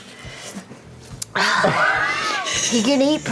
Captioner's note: sighs